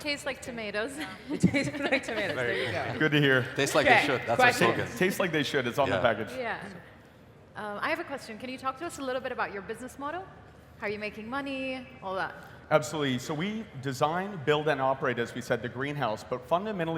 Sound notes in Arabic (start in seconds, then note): 1.0 يضحك